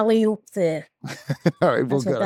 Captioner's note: chuckles